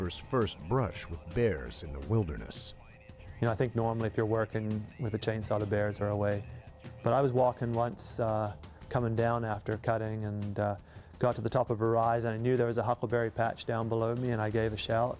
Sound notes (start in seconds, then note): 9.5 voiceover